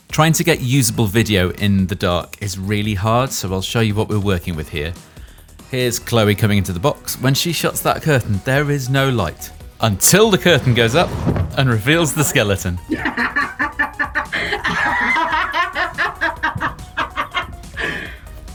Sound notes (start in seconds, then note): 12.9 laughing